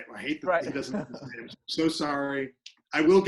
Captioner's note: laughing